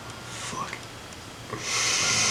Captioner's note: whispers; sighs